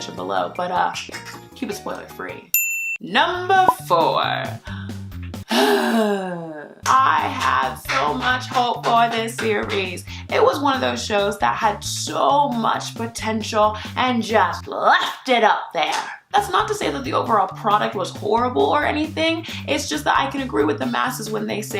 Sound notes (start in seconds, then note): 5.4 sighs